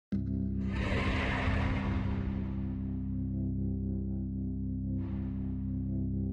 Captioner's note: dramatic music; logo whooshing